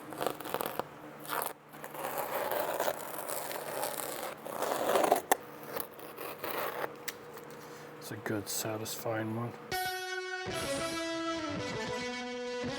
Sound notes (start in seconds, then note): 1.2 tape ripping; 9.7 groovy music